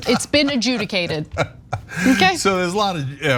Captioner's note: laugh